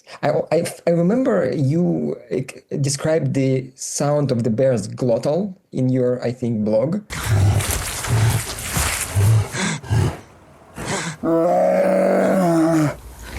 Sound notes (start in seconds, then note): 7.2 deep, throaty panting; 7.2 squelching thuds; 11.2 disgruntled cry